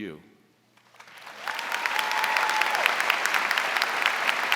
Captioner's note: audience applauding